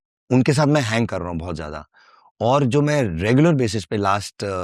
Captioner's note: speaking hindi